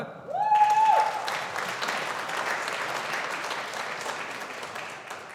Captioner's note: audience applauding